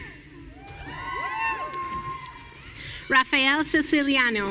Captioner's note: audience cheering